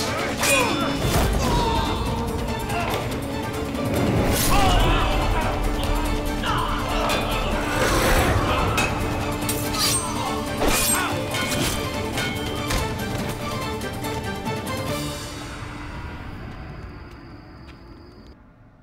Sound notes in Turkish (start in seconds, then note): 0.0 Dövüş sesleri; 0.0 Bağırma sesi; 4.4 Bağırma sesi; 6.3 Dövüş sesleri; 10.6 Kılıç sesi